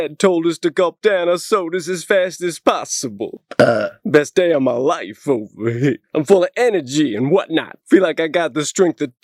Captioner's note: burp